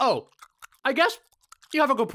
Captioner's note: chewing